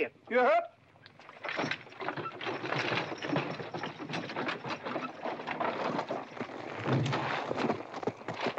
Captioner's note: carriage rattles away